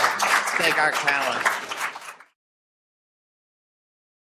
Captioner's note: applause